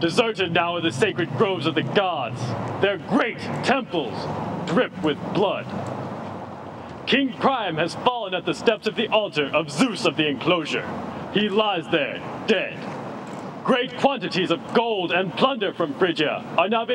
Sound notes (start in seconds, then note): none